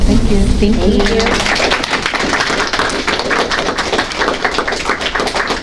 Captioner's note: audience applauding